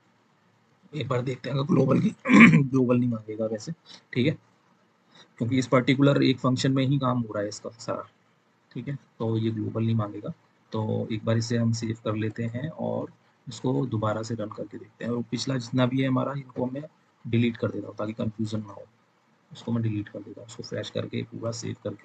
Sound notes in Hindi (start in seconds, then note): 1.9 गला साफ़ करने की आवाज़